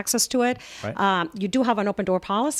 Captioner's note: Hablando ingl\s